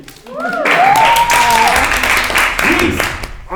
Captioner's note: crowd applauding